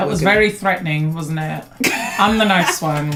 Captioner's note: laughs